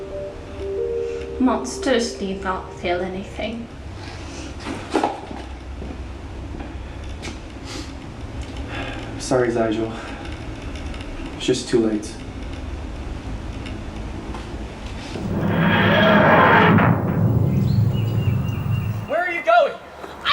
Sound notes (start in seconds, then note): 15.1 TARDIS materializing